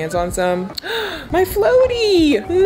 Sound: gasps

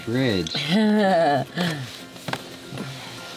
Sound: chuckling

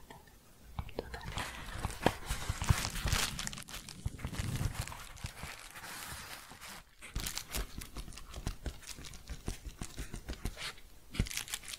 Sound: shuffling and crinkling

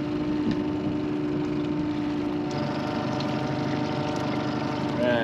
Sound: boat engine idling

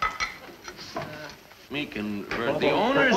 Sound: chorus of voices; footsteps

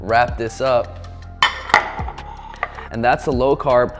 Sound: clinking

